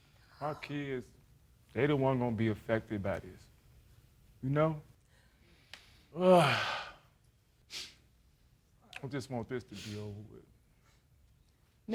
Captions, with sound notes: Our kids, they're the ones going to be affected by this. You know? (SIGHS) I just want this to be over with.